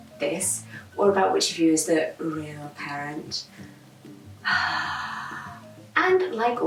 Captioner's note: exasperated sigh